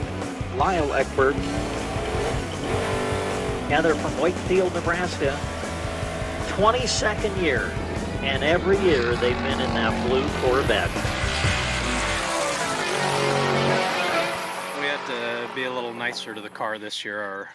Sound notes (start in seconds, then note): 2.9 engine revving; 6.2 engine revving; 13.7 car engine blaring